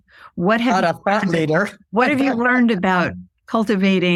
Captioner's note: laughs